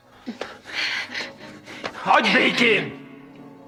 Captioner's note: gasps